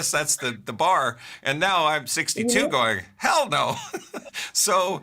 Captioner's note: laughs